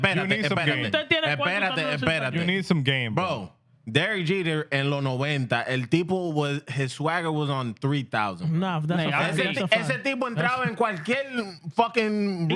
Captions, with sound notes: (Speaking In Foreign Language) You need some game, bro. Derek Jeter and Lono Wenta, El Tipo, his swagger was on 3000. No, that's a fact. (Speaking In Foreign Language)